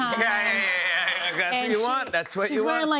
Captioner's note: laughter